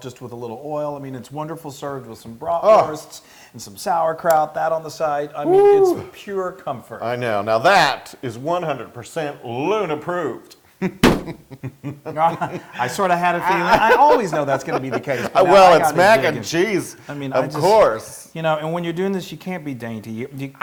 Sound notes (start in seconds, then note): 11.3 laugh